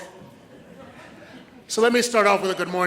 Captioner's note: audience laughs